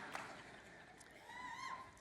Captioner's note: one congregant cheers